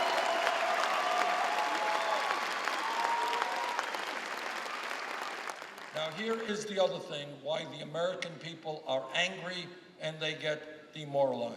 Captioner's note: applause